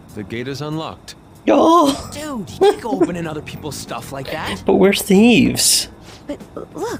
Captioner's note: laughs